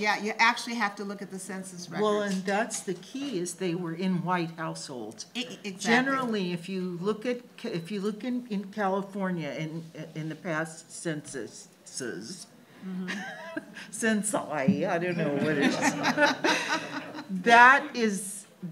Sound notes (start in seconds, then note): 15.3 audience laughs; 15.4 laughs